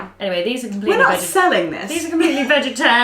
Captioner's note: laughs